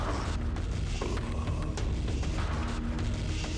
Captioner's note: creature groaning; mellow upbeat music